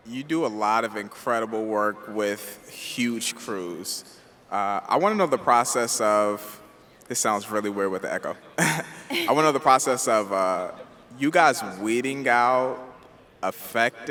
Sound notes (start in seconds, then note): 8.6 laughs